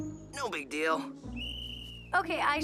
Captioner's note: whistle blows